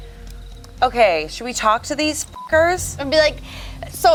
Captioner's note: beeps